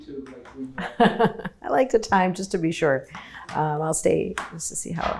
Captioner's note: chuckles